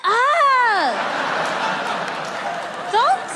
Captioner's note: audience laughter